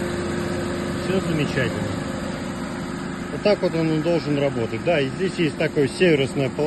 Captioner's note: engine running